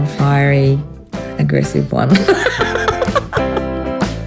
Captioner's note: laughs